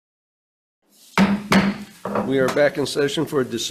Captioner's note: gavel bangs